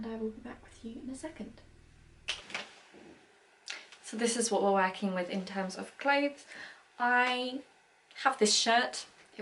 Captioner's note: clicks